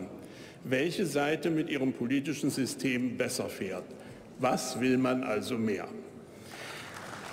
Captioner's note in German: Beifall bei der AfD